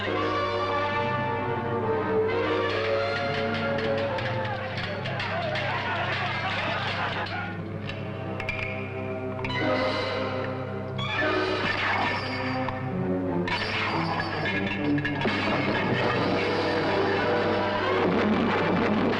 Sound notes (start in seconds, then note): 0.2 suspenseful orchestral music; 2.9 men shouting; 3.0 swords clashing; 11.9 chains shattering